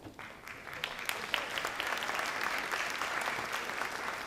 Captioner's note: audience applauds